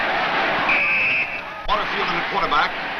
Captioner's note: whistle blows